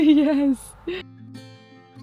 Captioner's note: laughs